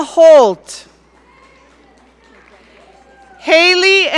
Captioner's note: audience cheering